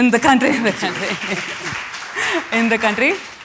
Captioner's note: applause